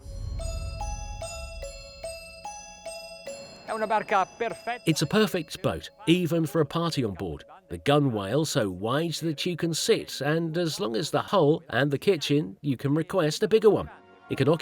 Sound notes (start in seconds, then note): 0.0 dramatic music; 3.9 speaking in foreign language